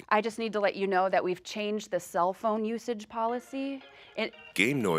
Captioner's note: phone ringing